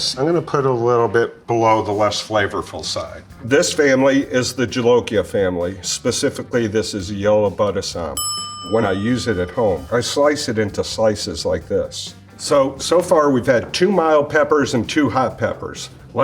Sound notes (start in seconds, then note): 8.2 bell dings